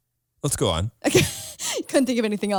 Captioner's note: laughs